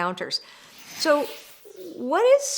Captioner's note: air whooshing